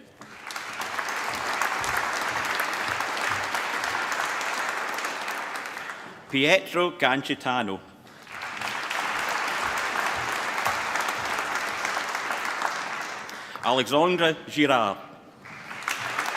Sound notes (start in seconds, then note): 0.0 applause; 8.0 applause